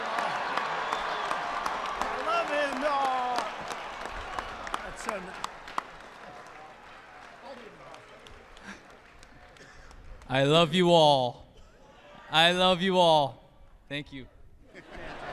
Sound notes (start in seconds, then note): 5.4 applause; 11.6 laughter